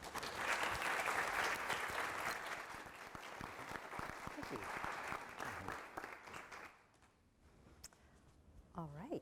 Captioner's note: applause